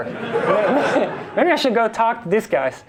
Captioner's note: class and instructor laugh